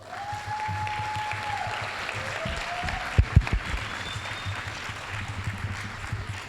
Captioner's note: applause, cheering; applause